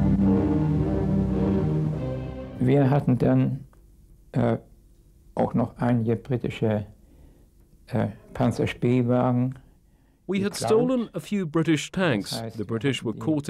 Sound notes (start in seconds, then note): 0.0 dramatic music; 3.2 speaking in a foreign language